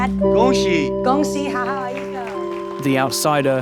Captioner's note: in mandarin